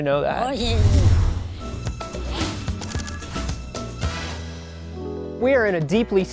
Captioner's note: speaking ewok